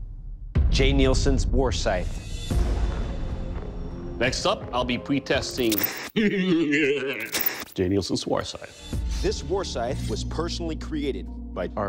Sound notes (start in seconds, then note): 6.1 laughs maniacally